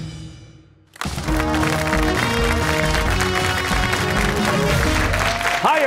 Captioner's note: cheers and applause